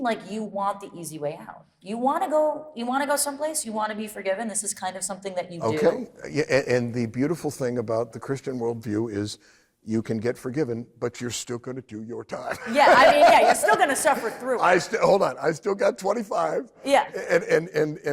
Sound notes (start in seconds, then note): 12.4 laughs